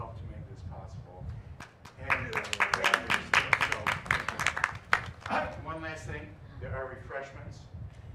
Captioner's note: applause